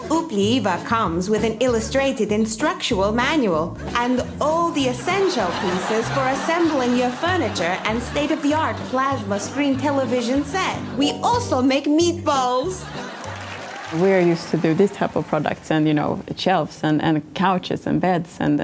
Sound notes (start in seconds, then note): 12.4 audience laughs and claps